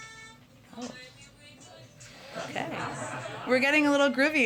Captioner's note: laughter